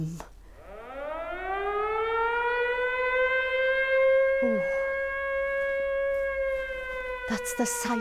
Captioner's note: air raid siren